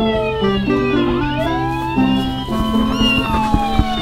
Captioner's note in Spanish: sirena; gato maulla